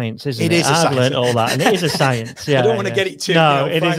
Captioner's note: laughing